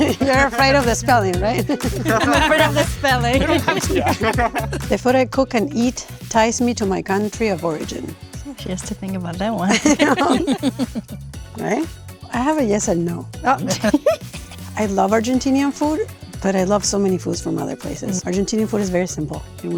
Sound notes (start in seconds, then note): 1.5 group laughing; 1.6 laughing; 9.6 laughing; 13.7 chuckling